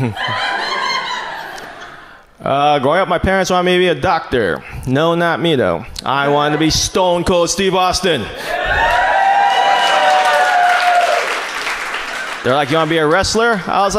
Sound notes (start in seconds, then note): 0.0 chuckles; 8.3 audience cheers